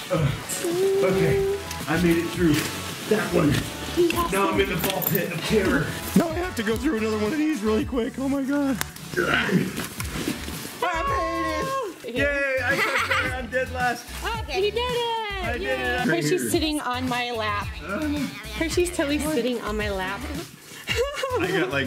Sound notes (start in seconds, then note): 0.2 grunts; 9.2 grunts; 12.6 chuckles; 18.2 gasps; 20.8 laughs